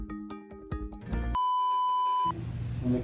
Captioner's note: beep